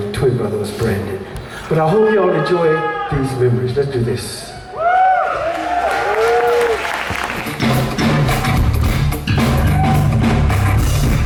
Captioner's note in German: jubel; applaus